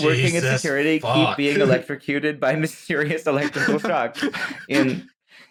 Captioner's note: laughs